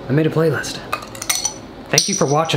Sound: metal clattering

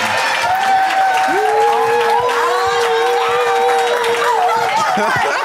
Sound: applause

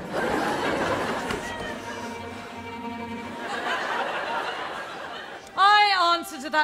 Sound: audience laughter

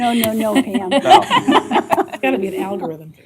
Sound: laughter

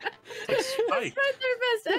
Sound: laughing

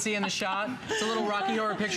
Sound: laughter

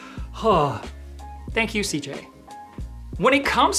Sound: sighs

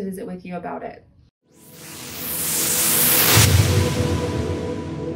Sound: whooshing

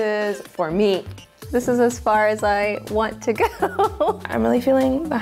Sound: laughs

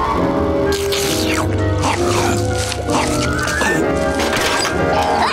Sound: scarfing

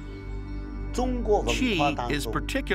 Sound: speaking Chinese

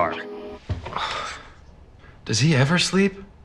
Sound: sighs

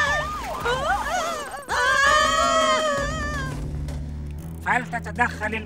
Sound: sirens; screams

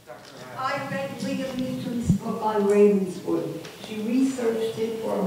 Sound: audience member murmuring

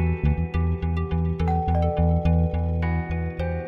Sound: door bell rings

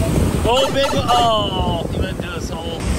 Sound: mario tunnel sound

